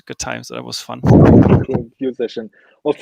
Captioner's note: laughing